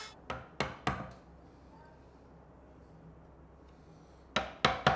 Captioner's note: chisel bangs repeatedly